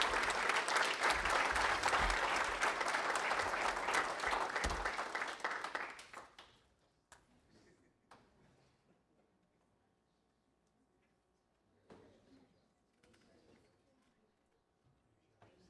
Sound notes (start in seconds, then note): 2.0 applause